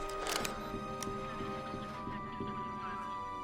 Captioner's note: chatter continues